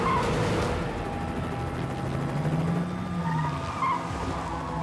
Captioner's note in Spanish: ruido del helicóptero; chirrido de llantas